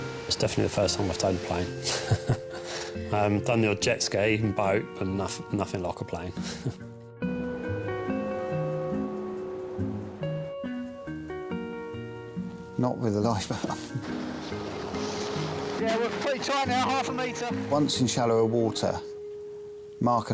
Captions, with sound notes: It's definitely the first time I've towed a plane. (chuckles) I've done the odd jet ski and boat, but nothing like a plane. (chuckles) (gentle music continues) - Not with a life boat. (chuckles) - Yeah, we're pretty tight now. Half a meter. Once in shallower water,